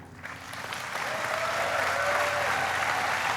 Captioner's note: applauding